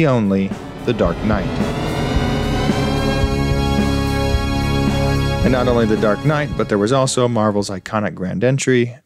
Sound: THX sound

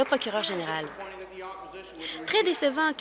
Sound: applause

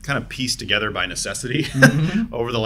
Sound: laughs

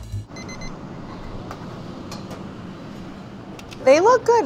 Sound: timer beeping

